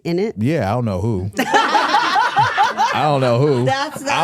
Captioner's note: hosts laughing